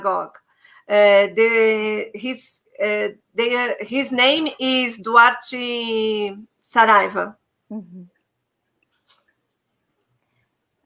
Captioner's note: speaking Portuguese